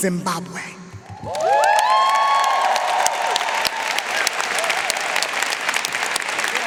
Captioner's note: audience applauding; audience cheering